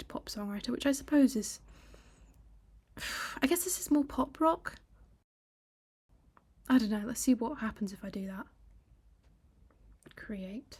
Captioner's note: sigh